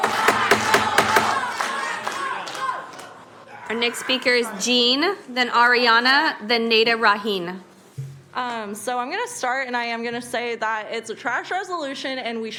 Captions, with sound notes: NO MY NO VOTE. (CHANTING) >> OUR NEXT SPEAKER IS JEAN.